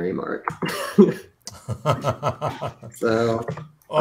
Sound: laughter

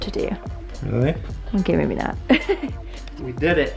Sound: laughs

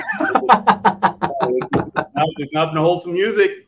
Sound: all laughing

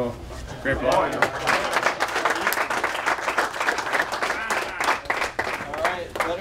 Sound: applause

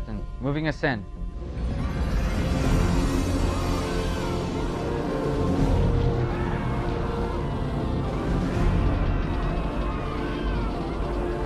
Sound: shouting and screaming

